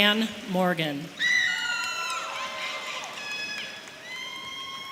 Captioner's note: parents cheering